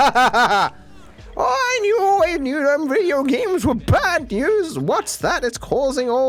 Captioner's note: "very tired" laughter; old lady voice